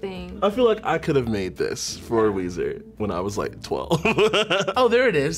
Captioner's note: laughs